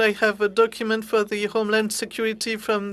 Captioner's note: speaking French